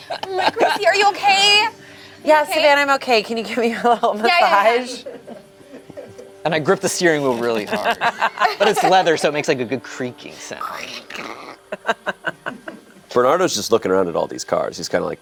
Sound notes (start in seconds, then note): 10.8 creaking; 11.2 laughs